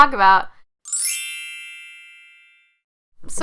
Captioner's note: chimes